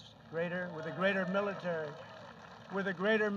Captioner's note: applause